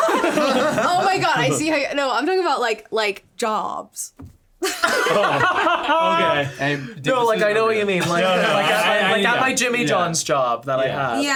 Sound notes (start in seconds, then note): 0.0 all laughing; 4.6 all laughing